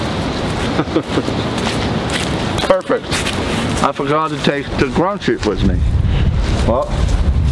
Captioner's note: laughing